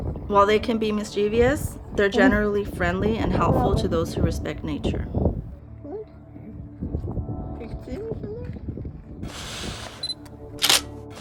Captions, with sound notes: While they can be mischievous, they're generally friendly and helpful to those who respect nature. [wind blowing] [camera shutter]